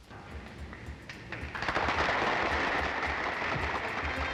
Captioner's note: applause